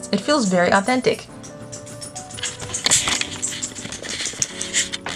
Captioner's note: rattling